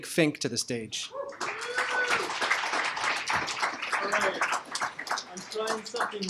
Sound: applause

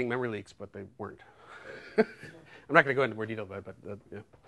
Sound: chuckles

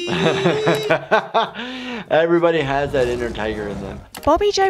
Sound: laughs

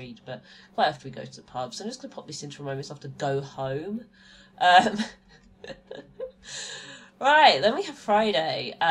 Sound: laughs

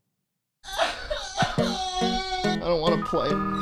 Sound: schlatt crying

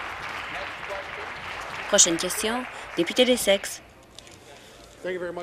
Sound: applause; voice trailing

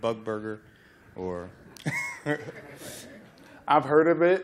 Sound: laughter

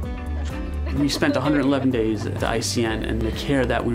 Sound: laugh

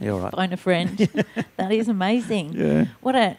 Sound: laughing

